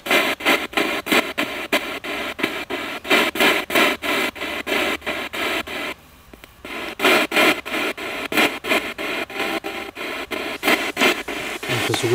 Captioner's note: radio noise from the spirit box